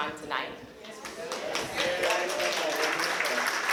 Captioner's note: applause